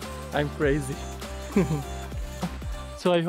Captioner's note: laugh